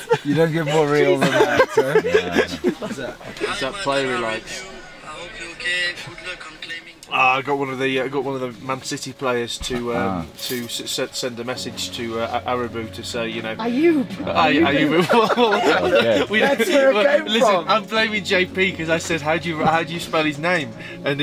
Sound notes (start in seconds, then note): 14.5 laughing